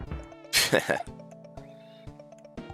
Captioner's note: laughs